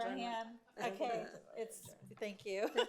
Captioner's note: speaks faintly